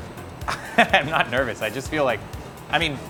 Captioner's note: chuckling